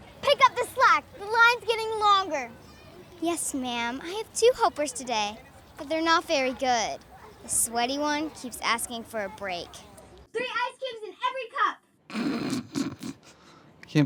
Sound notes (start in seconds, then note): 0.2 speaking sharply; 3.2 speaking sweetly; 10.4 speaking sharply; 12.2 Hannah snickers